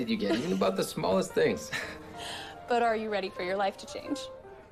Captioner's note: laughing